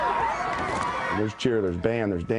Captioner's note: people cheering